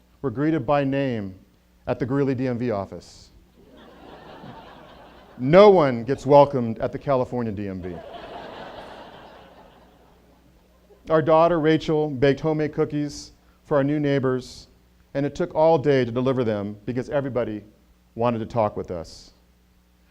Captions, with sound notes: greeted by name at the Greeley DMV office. No one gets welcomed at the California DMV. (audience laughter) Our daughter Rachel baked homemade cookies for our new neighbors and it took all day to deliver them because everybody wanted to talk with us.